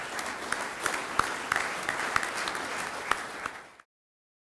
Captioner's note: clapping